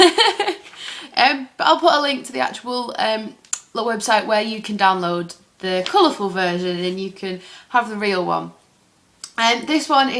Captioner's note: laughs